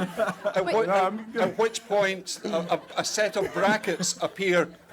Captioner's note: crowd laughs